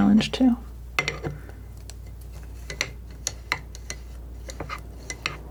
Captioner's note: scratching